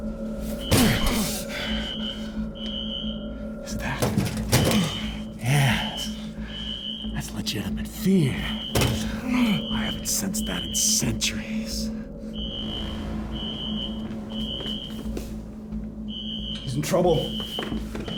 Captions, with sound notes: - Is that...? Yeah, that's legitimate fear. I haven't sensed that in centuries. (tense music) (alarm screeching) - He's in trouble.